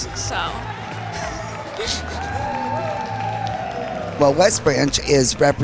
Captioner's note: audience cheering